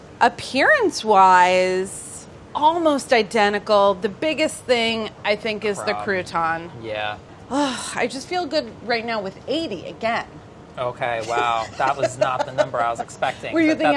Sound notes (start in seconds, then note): 11.2 laughs